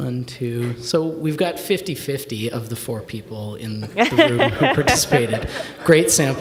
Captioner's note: laughing